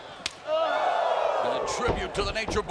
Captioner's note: backhand slaps; fans whoos